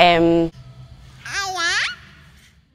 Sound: baby cooing

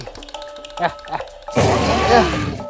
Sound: Dimetrodon Growl Sounds

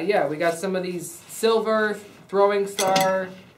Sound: clanging noise

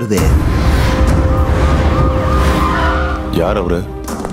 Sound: siren wails

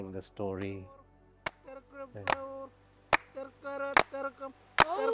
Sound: person chanting in language

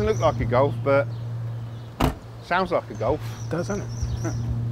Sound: slams

